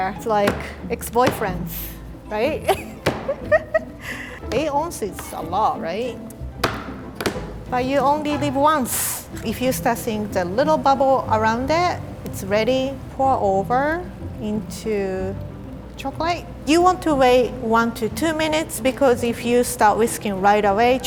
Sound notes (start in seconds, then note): 3.2 laughs; 6.6 knife clacking